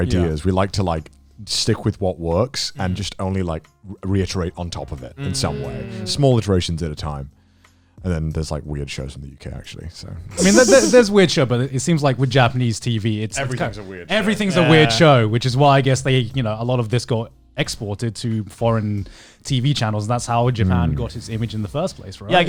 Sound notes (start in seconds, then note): 5.2 group humming in agreement; 10.3 all laughing